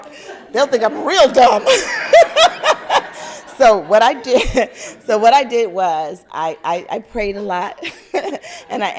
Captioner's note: laugther